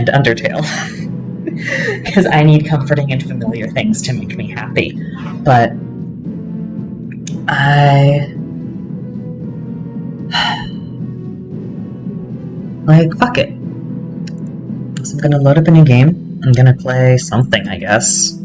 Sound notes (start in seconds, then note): 1.4 laughter; 10.3 sigh